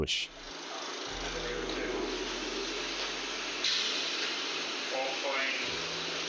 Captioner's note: fire crackling sounds can be heard